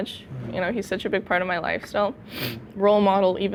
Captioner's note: sniffles